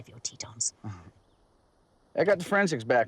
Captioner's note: detective chuckles